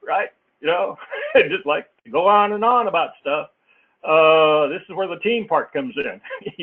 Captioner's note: laugh; laugh